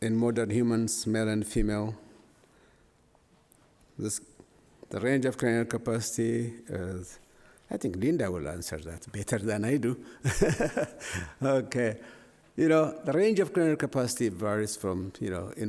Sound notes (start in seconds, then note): 10.2 laughs